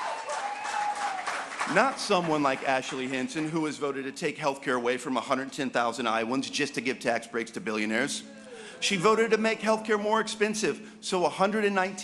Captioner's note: applause